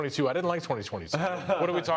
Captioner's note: laughs